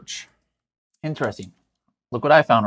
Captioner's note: computer mouse clicks